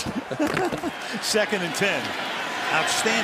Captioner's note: laughter